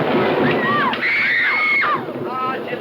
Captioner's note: children scream